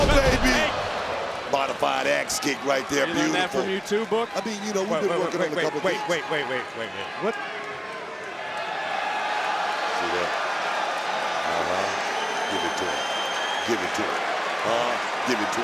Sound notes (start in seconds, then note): 8.5 crowd cheer